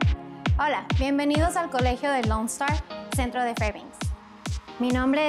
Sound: speaking Spanish

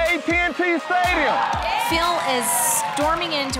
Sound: cheering

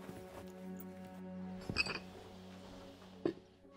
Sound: ice cubes clinking

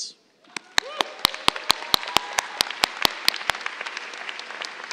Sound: cheers, applause

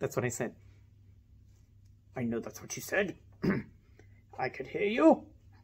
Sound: clears throat

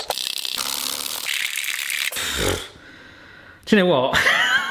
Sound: speedy whisking

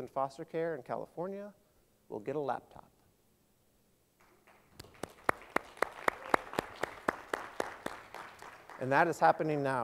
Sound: applause

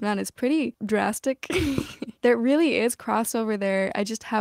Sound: laughter

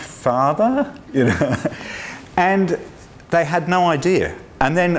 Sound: laughs

